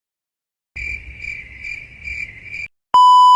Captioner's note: cricket noise